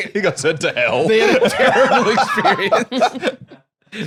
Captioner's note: laughing